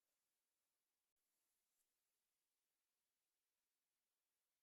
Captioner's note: thread Sewing